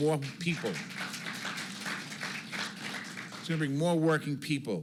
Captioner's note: applause